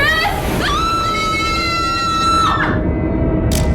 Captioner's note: women screaming; camera clicking; eerie music